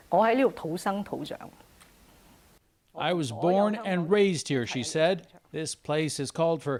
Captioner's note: speaking chinese